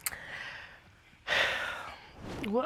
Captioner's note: sighs